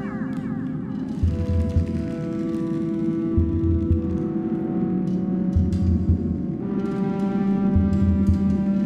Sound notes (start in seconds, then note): 0.2 ominous vibration